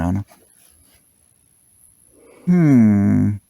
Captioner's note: fluorescent light sound